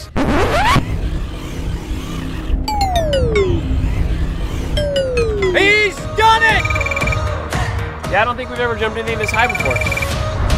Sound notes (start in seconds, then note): 0.1 record scratch; 2.6 down-pitched dinging